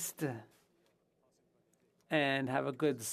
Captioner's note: speaking FRENCH